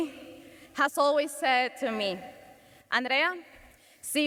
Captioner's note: speaks Spanish